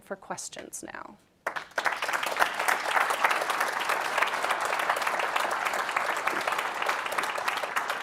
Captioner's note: clapping